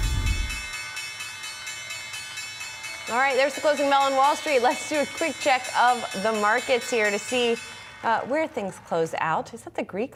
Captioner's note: bell